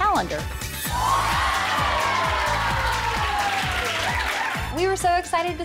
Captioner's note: crowd exclaims